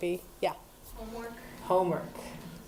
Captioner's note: voiceover